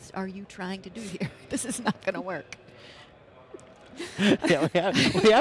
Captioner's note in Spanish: Risas